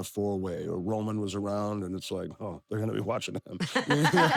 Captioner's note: laugh